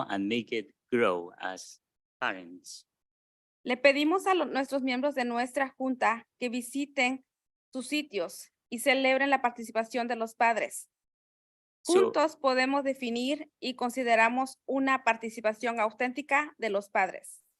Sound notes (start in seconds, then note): 3.8 speaking in Spanish